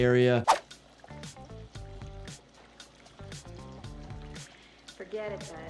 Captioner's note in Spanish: salpicaduras de agua